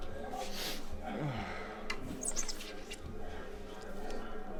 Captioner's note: ambassador sniffs